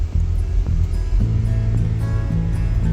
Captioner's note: none